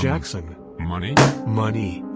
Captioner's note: slam